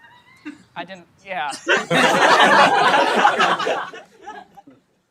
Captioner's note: laughter